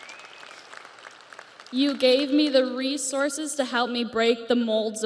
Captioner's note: audience cheers; audience applauds